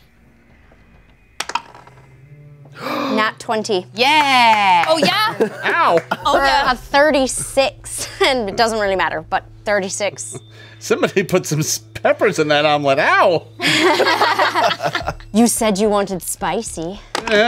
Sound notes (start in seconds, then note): 1.4 dice clatter; 2.7 players gasp